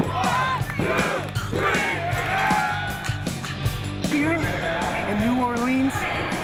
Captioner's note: fans chanting